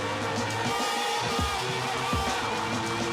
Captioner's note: screaming